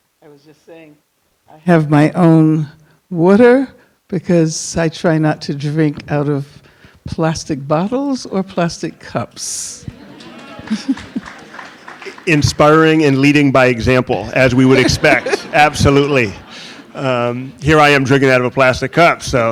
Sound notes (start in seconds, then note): 9.8 audience chuckling and clapping; 14.4 audience laughing; 14.6 Angela Davis laughs